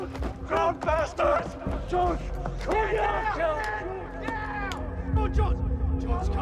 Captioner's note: indistinct shouting